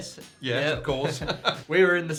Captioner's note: laughing